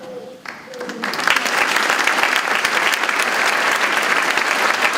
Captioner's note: audience clapping